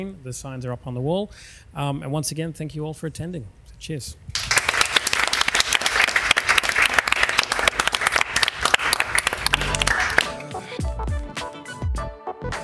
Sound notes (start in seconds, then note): 4.3 audience applauds; 10.6 upbeat music